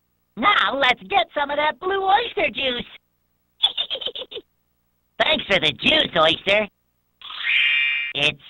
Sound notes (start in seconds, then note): 3.6 giggling